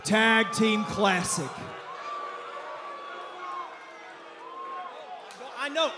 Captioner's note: crowd cheering